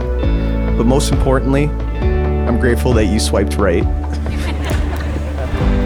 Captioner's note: laughing